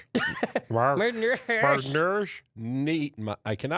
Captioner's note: both mumbling playfully